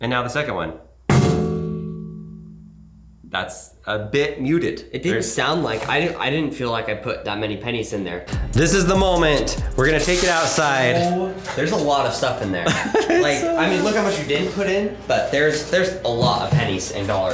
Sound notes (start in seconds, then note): 1.1 metal clangs mutely; 9.8 coins clanging; 12.6 laughs